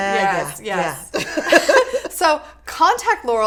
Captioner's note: laughing